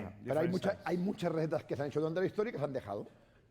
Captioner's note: speaking spanish